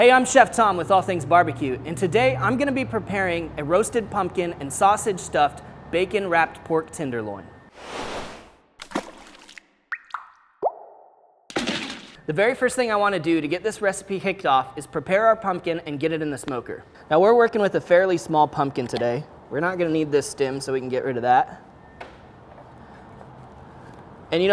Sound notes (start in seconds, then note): 7.7 swoosh; 8.8 dripping